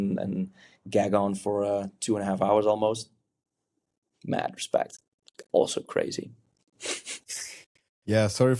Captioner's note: chuckles